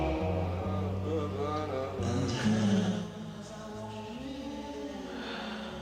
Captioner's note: Preacher humming